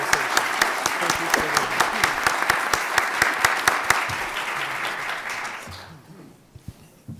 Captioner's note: applause